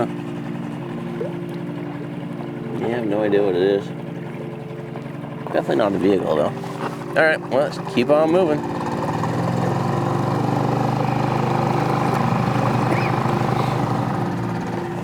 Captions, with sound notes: Huh? Yeah, no idea what it is. Definitely not a vehicle though. Alright, well let's keep on moving. (boat engine purring)